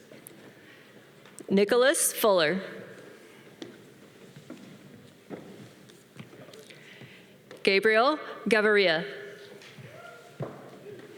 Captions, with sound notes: Nicholas Fuller. (footstep tapping) Gabriel Garreria.